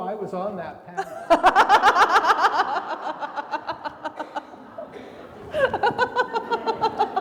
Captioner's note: everybody laughing; attendee coughing